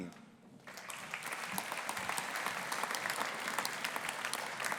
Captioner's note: audience applauding